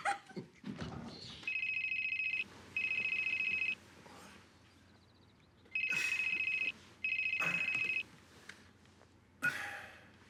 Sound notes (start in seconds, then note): 2.7 cell phone ringing